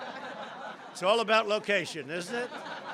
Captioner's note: laughter